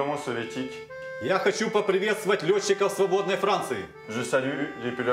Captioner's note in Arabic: الصوت المنطوق بالروسية